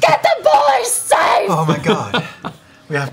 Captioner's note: yelling